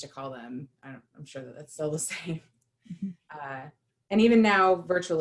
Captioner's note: laughter